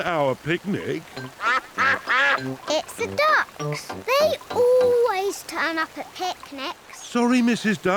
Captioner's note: quacks